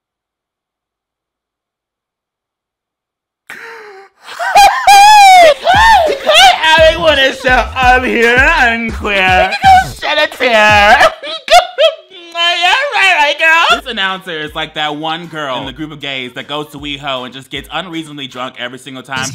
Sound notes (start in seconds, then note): 3.5 gasps; 4.6 laughs